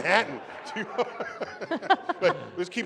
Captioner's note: laughter